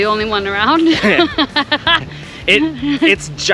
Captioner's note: both laughing